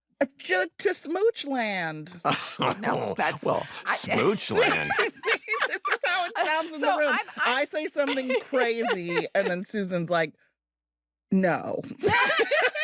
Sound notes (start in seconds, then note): 2.2 laughs; 12.0 laughter